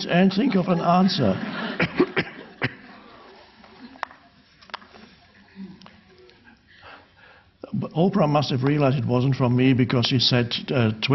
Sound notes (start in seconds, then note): 1.7 audience laughing